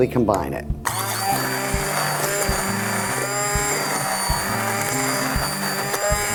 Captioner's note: immersion blender whirring